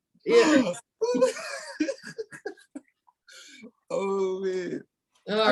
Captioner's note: laughing